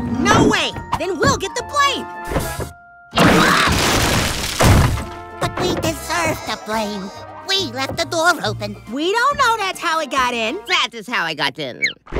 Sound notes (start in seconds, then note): 3.2 crashing